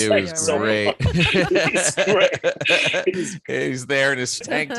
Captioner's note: laughter